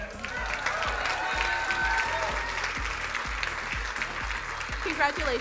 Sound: crowd cheering and applauding

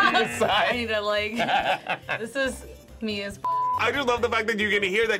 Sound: laughs

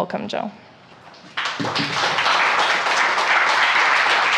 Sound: audience applauds

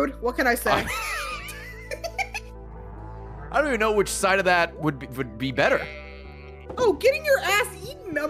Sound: laughs

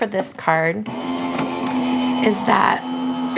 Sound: machine whirring

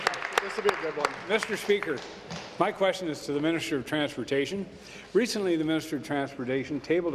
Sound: applause

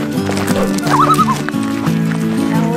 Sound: loon call

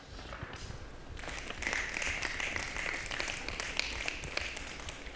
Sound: applause

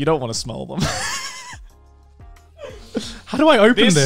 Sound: laughs

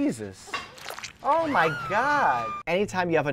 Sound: squishing noise; woman screaming

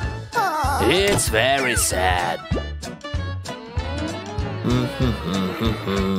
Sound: moaning

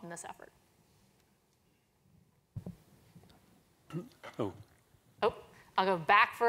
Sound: cough

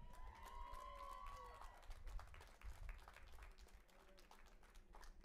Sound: audience applauding and cheering

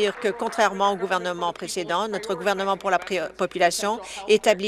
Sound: applause

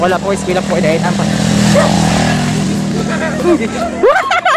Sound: laughing

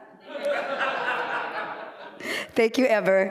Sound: laughter

